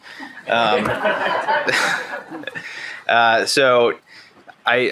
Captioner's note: panelists laughing